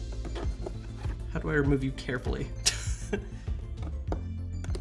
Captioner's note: laughs